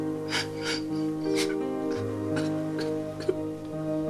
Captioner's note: sobs